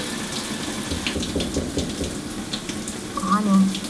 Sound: knocking

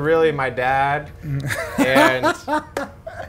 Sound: laughing

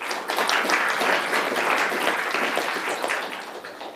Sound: applauding

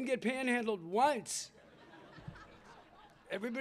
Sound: laughter

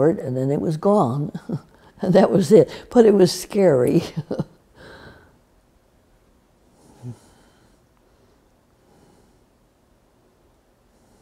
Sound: laughs

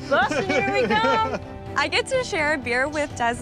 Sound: laughing

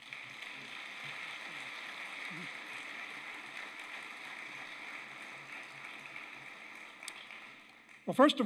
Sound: applause

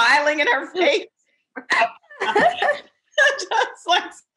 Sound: laughing

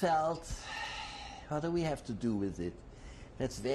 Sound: sighs

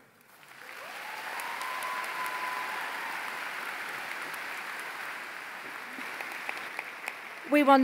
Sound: applause

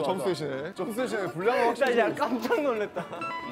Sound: haha

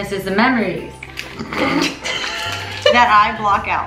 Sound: laughs

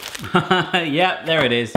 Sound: laughing

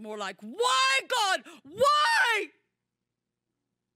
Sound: screaming

